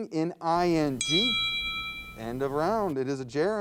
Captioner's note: round bell chimes